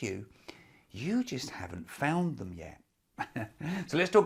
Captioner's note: chuckles